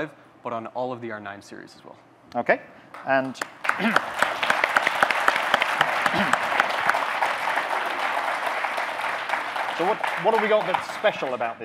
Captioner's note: audience clapping